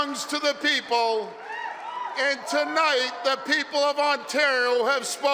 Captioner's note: cheering